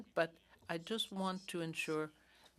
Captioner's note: speaking French